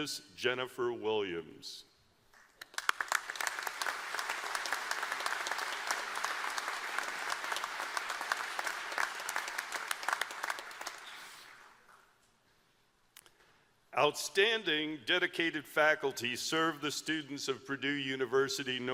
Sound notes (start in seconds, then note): 2.3 applause